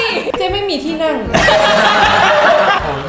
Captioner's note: burst out laughing